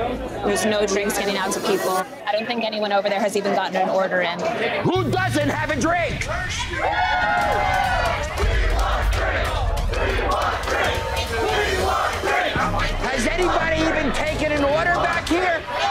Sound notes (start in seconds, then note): 6.7 customers cheering